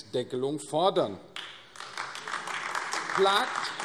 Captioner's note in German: Beifall AfD